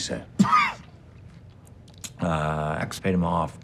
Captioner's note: Donnie coughs